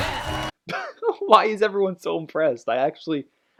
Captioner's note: wheeze